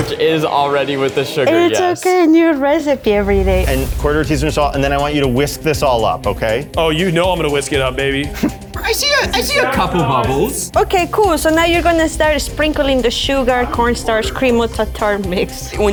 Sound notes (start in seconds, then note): 9.4 laughs